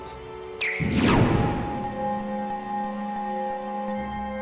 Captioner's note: memory erasing powers SFX